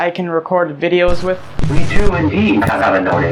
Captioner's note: glitch